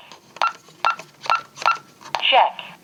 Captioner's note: beeping sounds